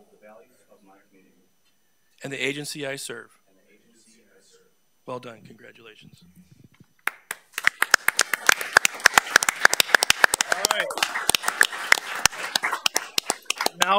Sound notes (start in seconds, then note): 7.0 all applauding